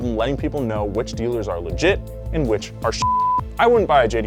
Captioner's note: beep